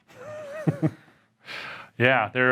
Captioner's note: laughs